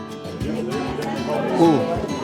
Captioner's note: people chatting